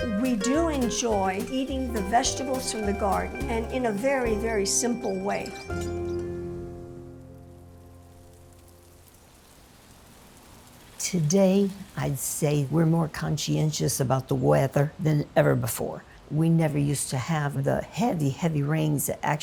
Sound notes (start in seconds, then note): 9.2 gentle rain falling